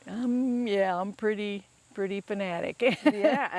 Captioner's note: laughs